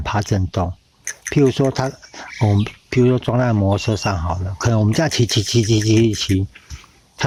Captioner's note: constantly vibrating